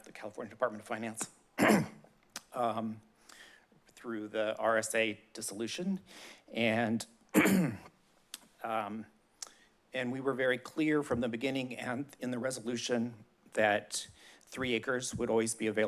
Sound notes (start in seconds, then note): 1.6 clears throat; 7.3 clears throat